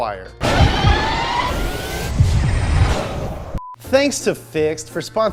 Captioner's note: engine revving